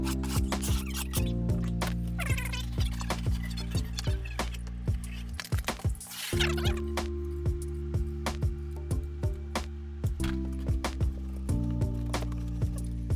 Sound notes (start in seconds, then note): 0.1 gentle music; 1.8 tape fast forwarding; 7.2 gentle music